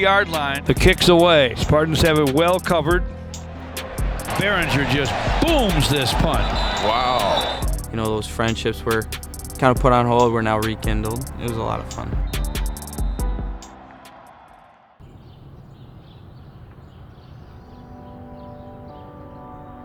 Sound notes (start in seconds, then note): 6.1 whistles blow; 15.0 birds chirp